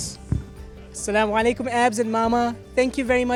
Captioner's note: non-english speech